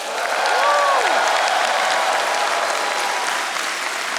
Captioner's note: audience applauding